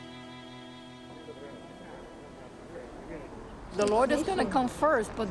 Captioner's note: background talking